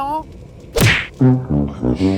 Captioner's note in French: bruitage de coup de pied; Musique de défaite à la trompette